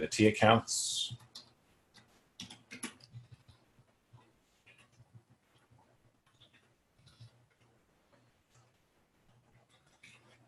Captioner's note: typing